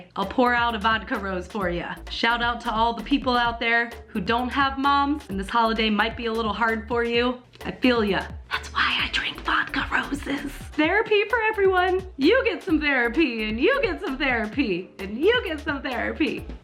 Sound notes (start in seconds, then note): 8.4 whispering